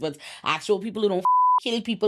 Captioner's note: beep